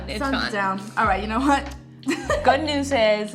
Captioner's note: laughs